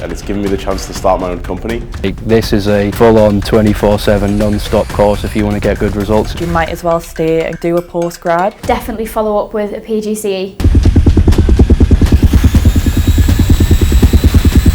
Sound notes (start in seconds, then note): 10.6 heavy drums; 10.6 motor spinning loudly